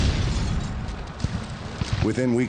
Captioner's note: cannonfire explodes